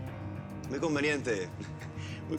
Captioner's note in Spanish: Risas